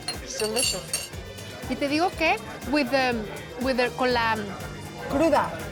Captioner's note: speaking Spanish